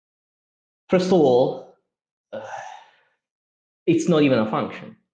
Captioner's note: sighs